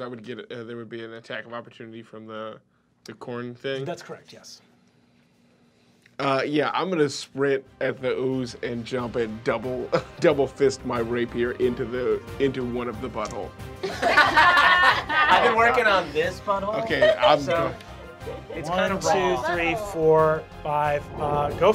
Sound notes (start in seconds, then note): 13.8 laughing